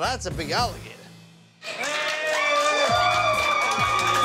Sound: cheers and applause

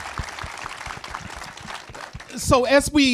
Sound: audience applauds

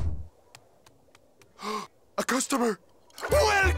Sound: gasping

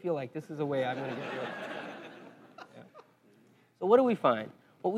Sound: laugh

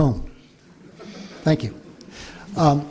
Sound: laughter

